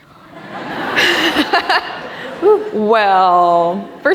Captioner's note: laughing